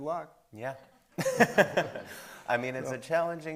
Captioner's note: laughs